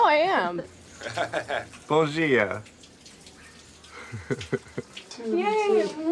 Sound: laughing and speaking in foreign language

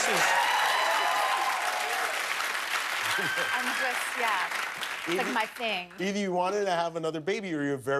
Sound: cheers and applause

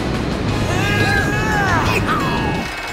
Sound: grunting

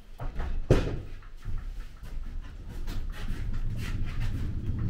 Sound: boards thumping

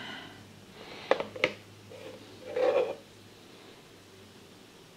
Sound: phone clatters

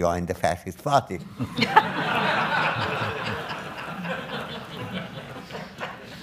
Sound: audience laughs

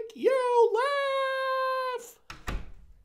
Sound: door shuts

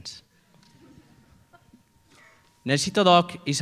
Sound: laughter

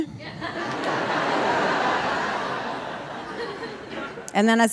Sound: audience laughing

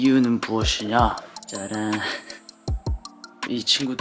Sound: ta-da

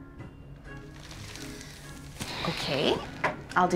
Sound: sighing

